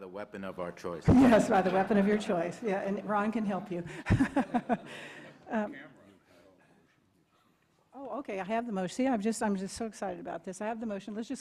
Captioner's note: laughter